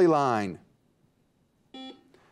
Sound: buzzer beeps

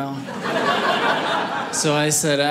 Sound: audience laughing

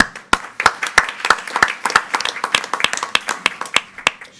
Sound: group applauding

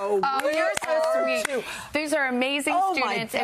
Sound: applause

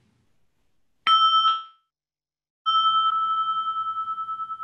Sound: bell rings

